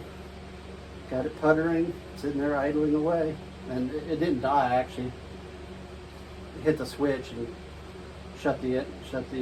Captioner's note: ignition